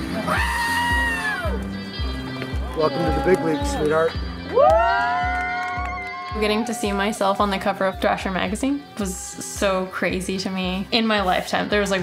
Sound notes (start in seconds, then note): 0.1 Tony cheering; 4.7 group cheering